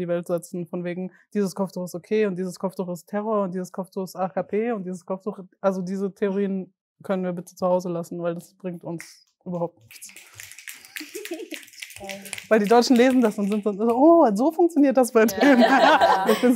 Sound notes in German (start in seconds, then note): 11.9 Schnipsen